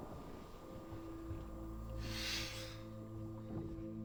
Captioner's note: ears ringing; thunder rumbling; Jacob sniffles; solemn music; water splashing